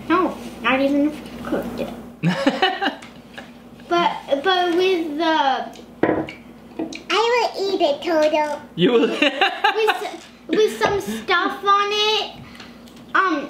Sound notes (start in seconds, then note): 2.2 laughing